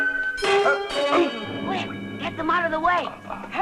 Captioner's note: clanging